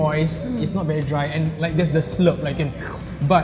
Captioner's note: makes slurping noise